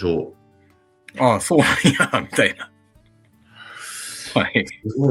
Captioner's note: laughs